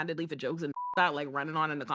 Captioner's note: beep